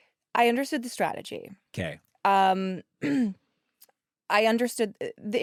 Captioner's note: clears throat